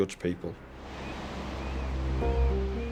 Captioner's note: waves crashing; birds squealing; pensive music